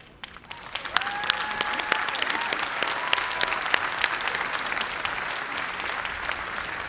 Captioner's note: cheers and applause